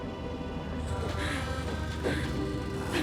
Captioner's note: panting